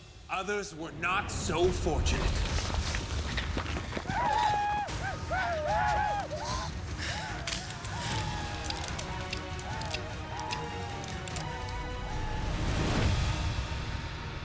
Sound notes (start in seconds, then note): 3.3 rocks clattering, paiutes yell; 7.1 panting; 9.0 gun clicking